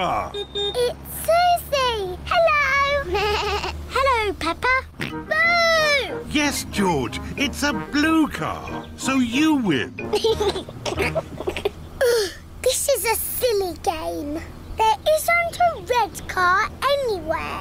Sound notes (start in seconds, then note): 0.2 horn beeps; 3.0 bleats; 5.0 oinks; 10.0 laughs; 11.7 groans